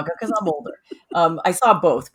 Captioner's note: laughing